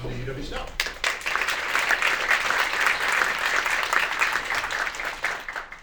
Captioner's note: audience applauding